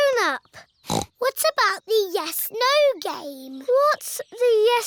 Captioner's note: snorts